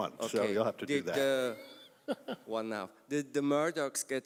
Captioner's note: laugh